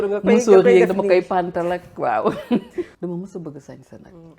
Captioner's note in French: rires